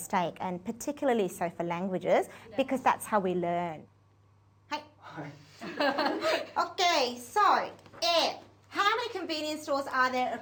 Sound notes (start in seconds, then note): 5.6 laughter